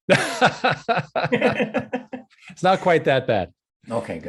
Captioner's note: both laughing